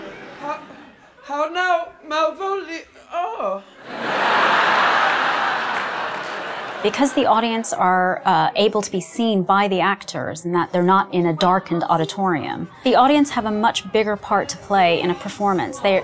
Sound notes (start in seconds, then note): 3.8 audience laughs